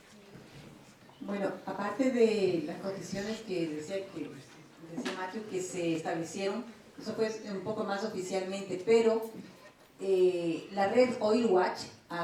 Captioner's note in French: Espagnol